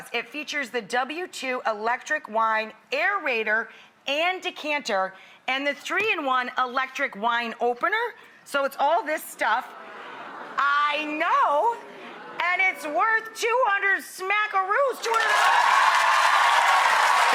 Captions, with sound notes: It features the W2 electric wine aerator and decanter, and the three in one electric wine opener. So it's all this stuff. (audience gasps) I know! And it's worth 200 smackeroos (drowned out by applause)